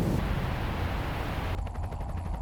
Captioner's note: waves roaring; helicopter blades whirring